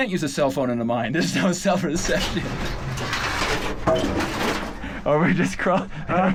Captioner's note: metal scrapes; everyone laughs